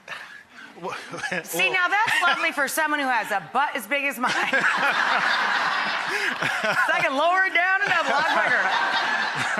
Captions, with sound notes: Well (laughs). See now that's lovely for someone who has a butt as big as mine (laughs). (audience laughs) 'Cuz I can lower it down and up a lot quicker (laughs).